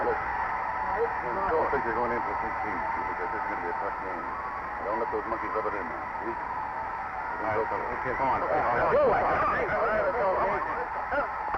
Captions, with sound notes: Listen, they think they're going in for a big team. They think this is gonna be a tough game. Now don't let those monkeys rub it in now see. Keep an eye open. (players shouting)